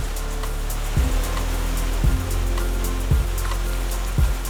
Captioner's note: rushing water